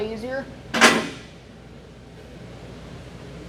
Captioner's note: clunking